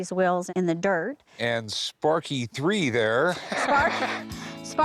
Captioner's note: laughs